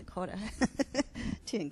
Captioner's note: chuckles